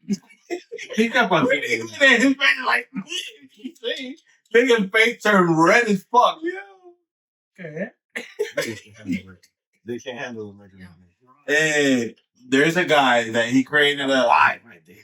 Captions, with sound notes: (Speaking In Foreign Language) Bigger page term, red as fuck. Okay. (Speaking In Foreign Language) They can't handle the majority of it. Hey, there's a guy that he created a live idea.